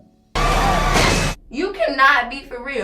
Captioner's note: thud